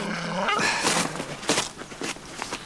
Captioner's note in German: Kajo seufzt